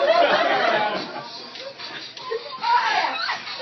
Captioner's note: laughter